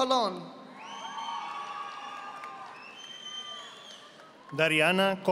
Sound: audience applauding

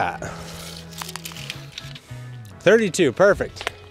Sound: tape measure rattling

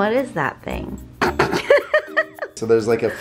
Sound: laughs; staggered blowing

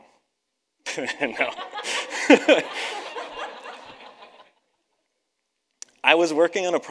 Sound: chuckles; audience laughs

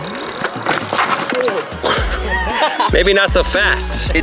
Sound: laugh

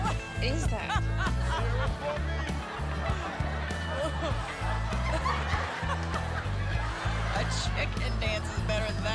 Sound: laughter

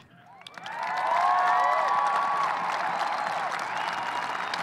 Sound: audience cheering

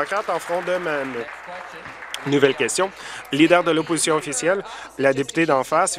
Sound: applause

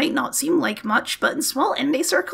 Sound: none

